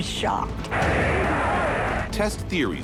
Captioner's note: crowd cheers